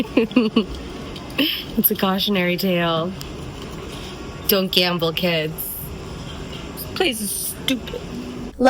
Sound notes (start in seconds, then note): 0.7 hoots